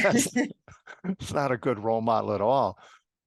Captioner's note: laugh